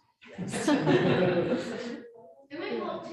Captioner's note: all laughing